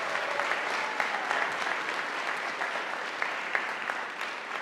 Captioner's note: audience applauding